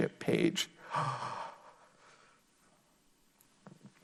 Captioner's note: gasps